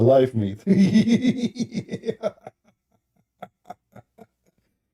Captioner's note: Ketawa